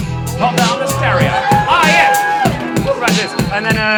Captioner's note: upbeat music; audience cheers